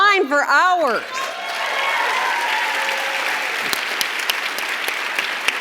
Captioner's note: audience cheers and claps